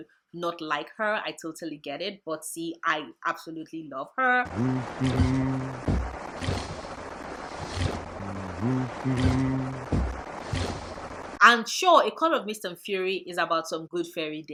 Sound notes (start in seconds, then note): 4.4 humming the wedding march